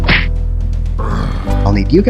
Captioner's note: groan